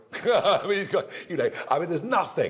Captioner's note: laughter